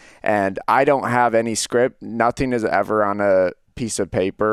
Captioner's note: none